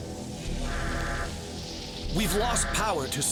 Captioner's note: system alarm buzzes